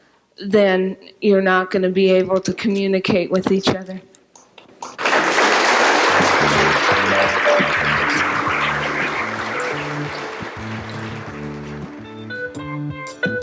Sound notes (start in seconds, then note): 4.8 applause